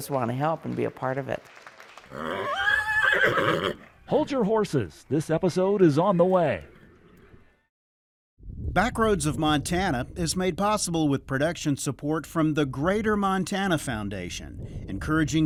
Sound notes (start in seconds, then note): 2.0 horse neighing; 2.3 audience applauding